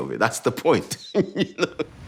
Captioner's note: laughs